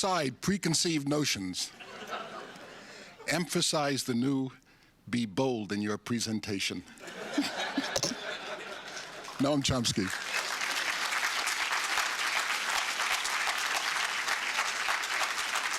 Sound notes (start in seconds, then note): 10.8 applause